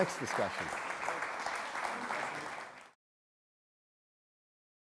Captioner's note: audience applauds